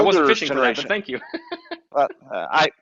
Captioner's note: chuckles